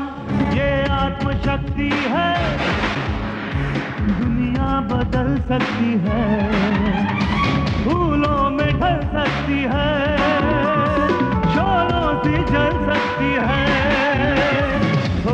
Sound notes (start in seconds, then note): none